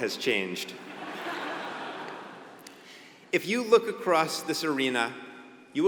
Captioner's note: laugh